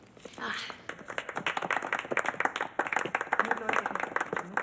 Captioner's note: crowd clapping